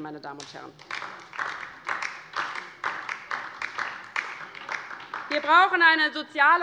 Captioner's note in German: Beifall DIE LINKE